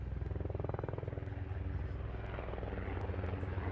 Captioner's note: helicopter Sound